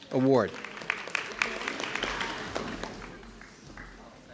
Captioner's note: audience clapping